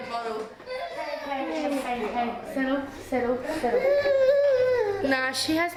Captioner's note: child whines